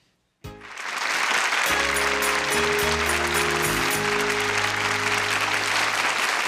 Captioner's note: applause and upbeat music